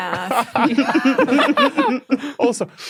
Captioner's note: group giggling